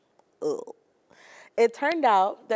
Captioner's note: groaning in dismay